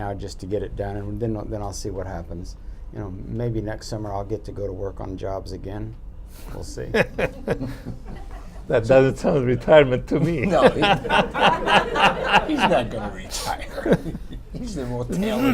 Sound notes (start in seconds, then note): 6.8 laughter; 12.0 laughter